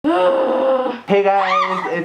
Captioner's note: groans; yelps